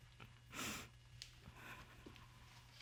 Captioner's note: sniffles